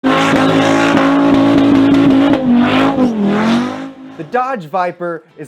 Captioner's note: car engine roaring